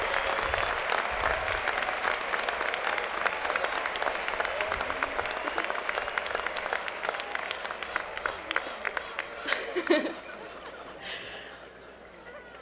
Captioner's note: applause